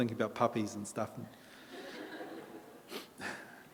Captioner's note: audience laughter